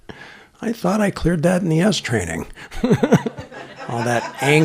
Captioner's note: laughter